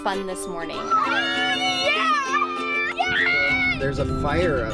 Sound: screaming

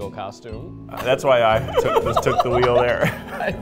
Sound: laughing

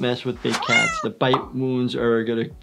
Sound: meowing

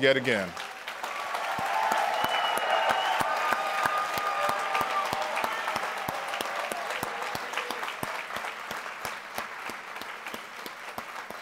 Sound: applause

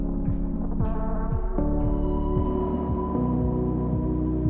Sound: footsteps tapping

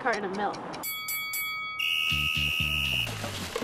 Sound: dinging bell and whistle

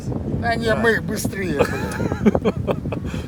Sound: laughter

